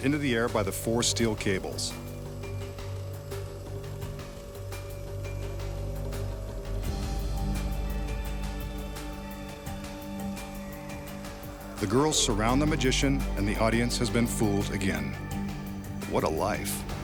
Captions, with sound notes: by the four steel cables. (winch running) (soft music) The girls surround the magician, and the audience has been fooled again. What a life.